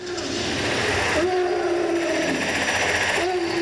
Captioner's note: roaring